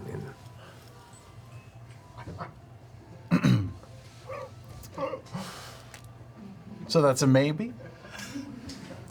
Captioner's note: clears throat